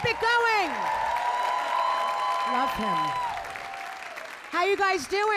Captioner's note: audience cheering